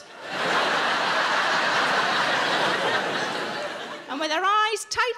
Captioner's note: audience laughing